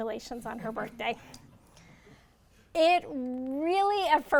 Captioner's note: audience laughs